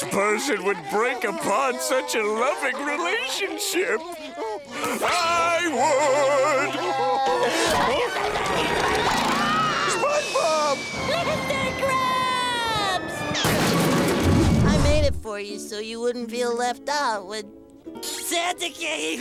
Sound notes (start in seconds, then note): 6.7 crying; 8.7 screaming